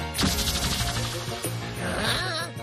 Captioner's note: energy sounds